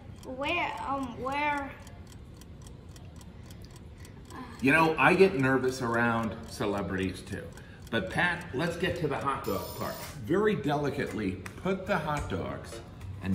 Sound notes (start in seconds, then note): 1.1 clock ticking; 9.4 alarm ringing